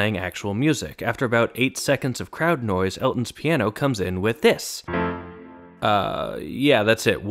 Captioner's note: bang